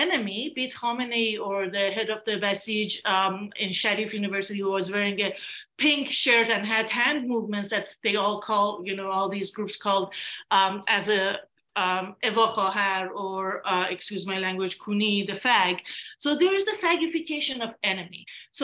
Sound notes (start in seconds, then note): 11.5 non english speech